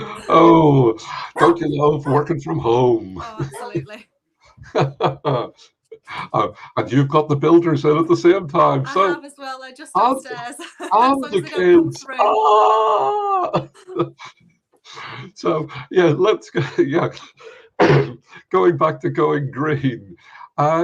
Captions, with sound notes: - O, don't you love working from home (dog barking) - O absolutely. (laughing) - And you've got the builders in at the same time, so. - I have as well, they're just upstairs. - And the kids. - So long as they don't come through. (laughing) - So, yeah, let's go, yeah. (clearing throat) Going back to going green.